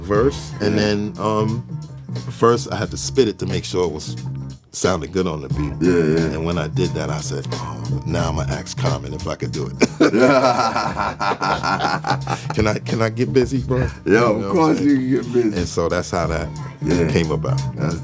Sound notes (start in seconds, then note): 9.7 chuckling; 9.7 laughing